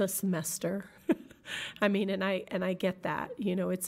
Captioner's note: laughing